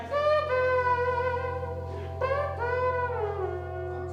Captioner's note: horn noises